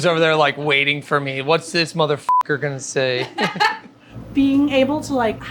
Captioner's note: laughing